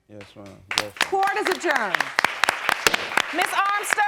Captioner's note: audience applauds